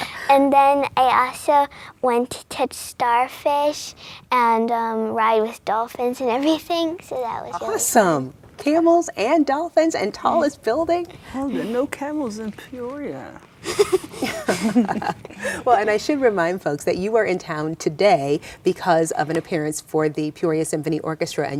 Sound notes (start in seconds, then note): 13.6 laughing